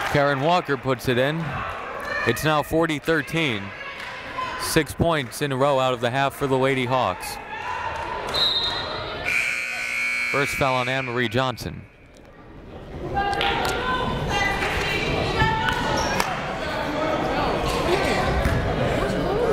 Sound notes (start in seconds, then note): 9.2 buzzer blaring; 13.6 crowd chattering faintly